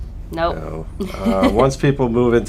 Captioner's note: laughter